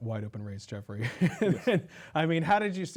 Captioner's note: laughs